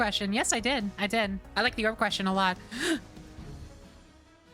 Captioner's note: gasp